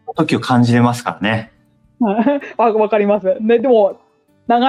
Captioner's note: laughs